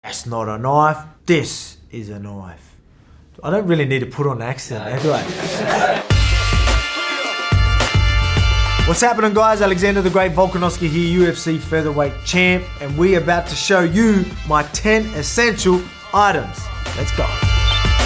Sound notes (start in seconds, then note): 4.8 people laughing; 6.5 upbeat music